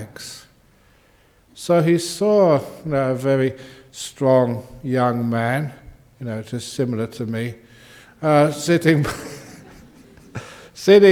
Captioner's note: laughs